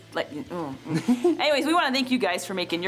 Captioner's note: laughing